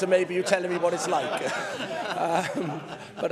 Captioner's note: laughter